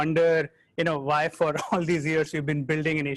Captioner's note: chuckles